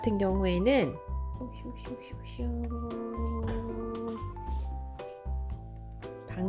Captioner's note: walking sound